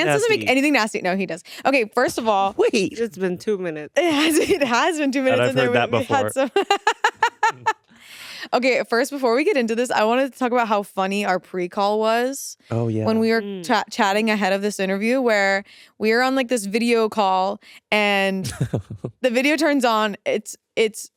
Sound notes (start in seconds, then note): 6.8 laughing; 18.4 laughing